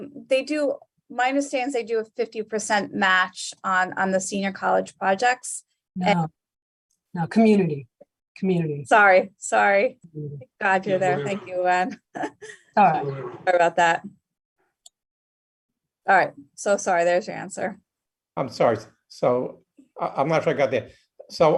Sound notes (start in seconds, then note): 12.2 echoes